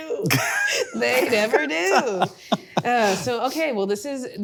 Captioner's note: laughing; Hank laughing